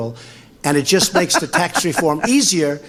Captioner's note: laughs